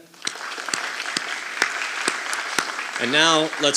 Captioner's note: audience applauding